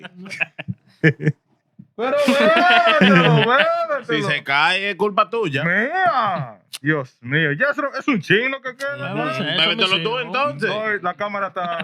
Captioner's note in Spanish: Hablando en idioma extranjero; Riendo; Hablando en idioma extranjero; Riendo